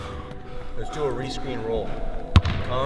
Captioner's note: ball bouncing